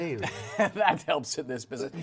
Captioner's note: laughing